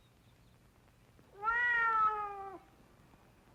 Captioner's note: cat meows